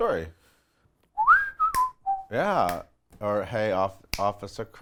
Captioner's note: whistles